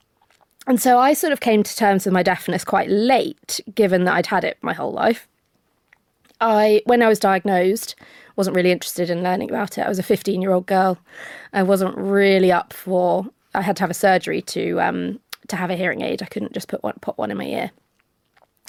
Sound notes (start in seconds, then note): none